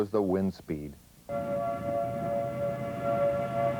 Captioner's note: sirens